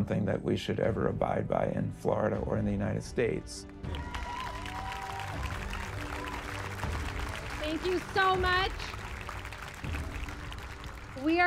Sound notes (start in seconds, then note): 3.7 cheers and applause